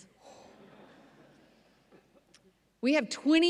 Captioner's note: audience laughs